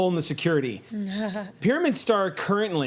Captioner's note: laughs